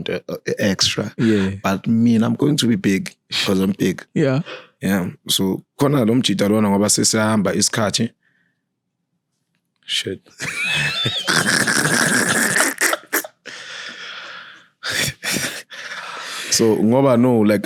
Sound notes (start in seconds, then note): 10.4 laughing